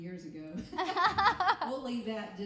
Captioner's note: laughing